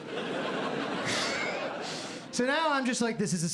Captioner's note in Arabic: يضحك